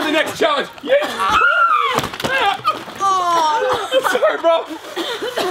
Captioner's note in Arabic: يصرخ